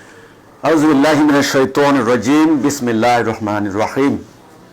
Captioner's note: Arabic